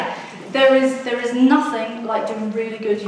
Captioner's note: audience laughs